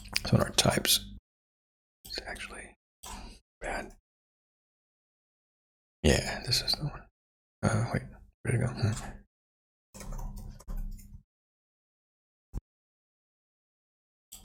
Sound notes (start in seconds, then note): 1.4 blank Audio; 10.6 blank Audio